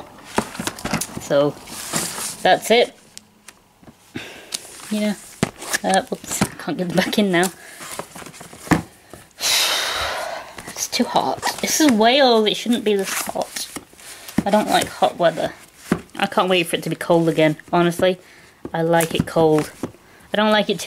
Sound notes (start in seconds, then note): 9.3 exhales